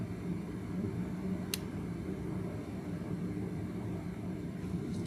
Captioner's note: light switch click